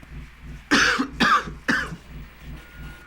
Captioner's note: coughs